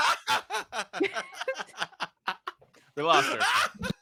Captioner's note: laughs